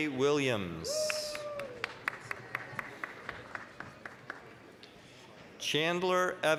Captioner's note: applause